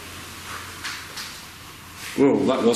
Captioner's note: slapping